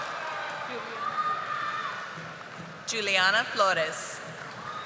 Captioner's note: audience applauding